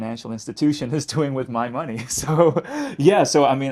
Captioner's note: laughing